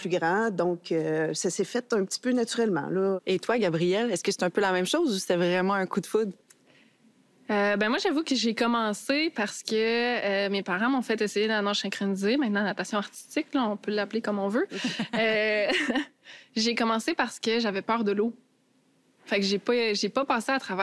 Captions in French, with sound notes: donc ça s'est fait un petit peu naturellement, là. - Et toi, Gabrielle, est-ce que c'est un peu la même chose ou c'était vraiment un coup de foudre? - Euh... bien, moi, j'avoue que j'ai commencé parce que mes parents m'ont fait essayer la nage synchronisée, maintenant natation artistique, là, on peut l'appeler comme on veut. (rires) J'ai commencé parce que j'avais peur de l'eau. Ça fait que j'ai pas... j'ai pas passé à travers